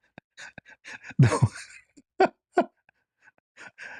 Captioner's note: laughter